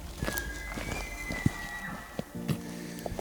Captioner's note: elk bugle